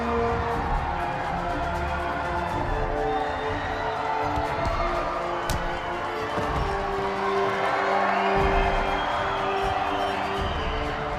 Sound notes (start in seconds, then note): 4.3 punch thumps; 6.1 Radovan thuds; 6.1 audience applauding